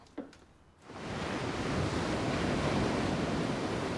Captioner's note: waves crashing